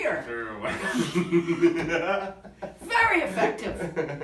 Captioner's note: both laughing